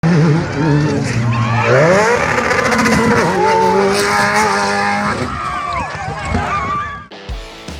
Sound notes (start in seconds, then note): 0.0 car engine howling; 5.3 screaming